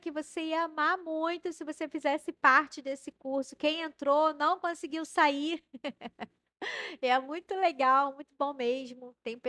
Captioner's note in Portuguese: risadas